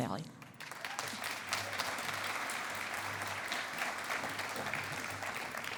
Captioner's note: cheering and applause